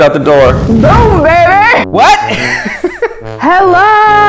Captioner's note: laughter